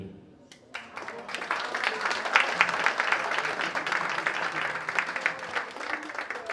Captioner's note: audience cheers and applauds